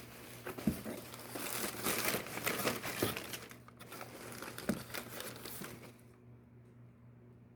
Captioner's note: crinkling of packing paper